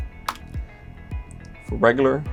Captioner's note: keys click